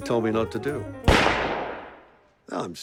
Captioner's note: gunshot